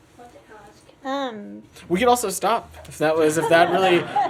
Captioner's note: laughter